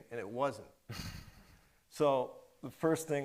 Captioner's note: chuckles